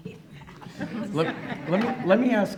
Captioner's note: laughing